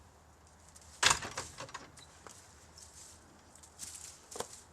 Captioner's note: fence lock clicks